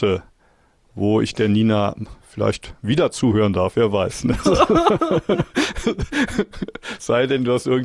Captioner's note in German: gelächter